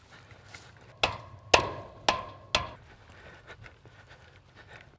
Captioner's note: hammer tapping